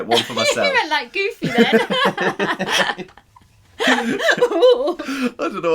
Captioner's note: laughter